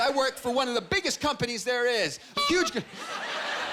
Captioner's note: honking